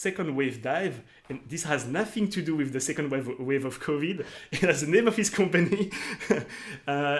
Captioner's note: laughs